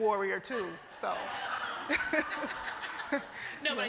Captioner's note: laughter